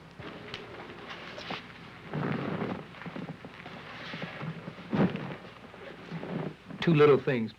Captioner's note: footsteps, seat cushion crunches